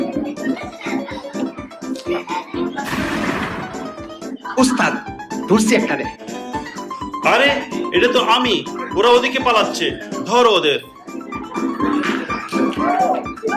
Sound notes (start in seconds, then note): 2.8 gun shots